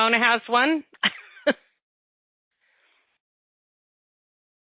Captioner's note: chuckles